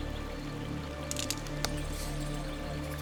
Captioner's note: twig snaps